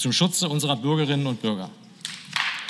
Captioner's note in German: Beifal